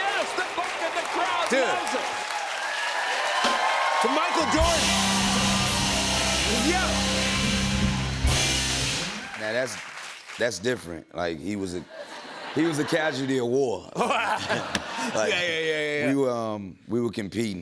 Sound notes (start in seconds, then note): 2.6 cheers and applause; 11.9 laughter